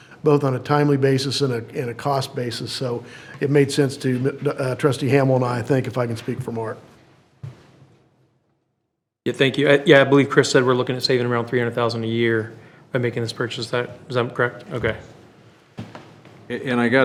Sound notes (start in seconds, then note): none